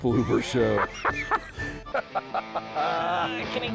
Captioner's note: laughter